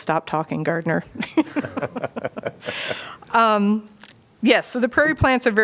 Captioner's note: laughter